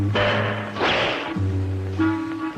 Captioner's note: suspenseful music; air whoosh; trap snapping; suspenseful music